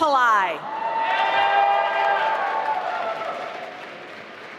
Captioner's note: applause